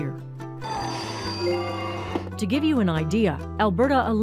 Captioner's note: machine bells chime